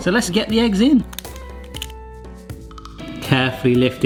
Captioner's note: eggs cracking